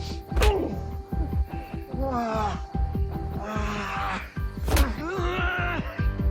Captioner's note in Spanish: Quejidos; Golpes; Golpes